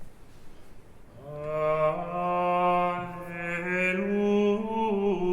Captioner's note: chanting